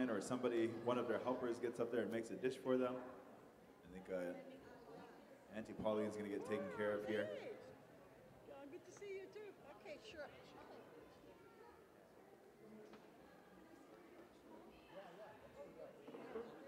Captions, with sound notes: Or somebody, one of their helpers gets up there and makes a dish for them. I think, uh, Auntie Pauline's gonna get taken care of here. [background chatter]